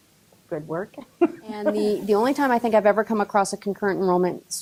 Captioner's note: laughs